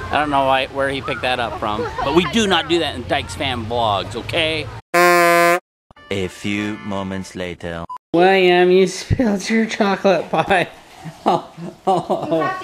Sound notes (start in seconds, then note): 4.9 horn sounding; 6.4 voiceover